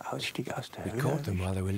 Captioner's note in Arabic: الصوت المنطوق باللغة الألمانية